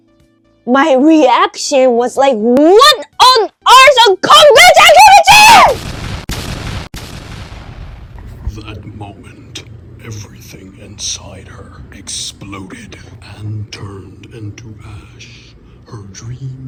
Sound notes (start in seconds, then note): 9.6 explosion